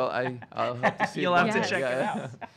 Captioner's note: stutters